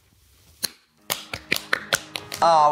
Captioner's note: soft piano music; clapping